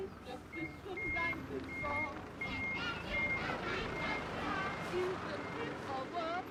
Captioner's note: truck beeping